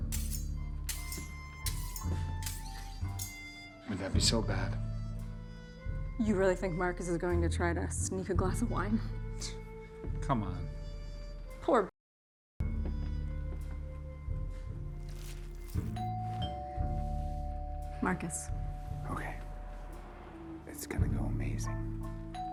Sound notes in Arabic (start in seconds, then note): 16.0 رنين جرس الباب